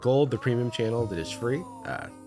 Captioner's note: disembodied voice